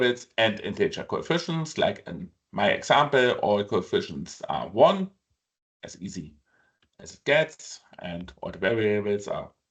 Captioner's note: click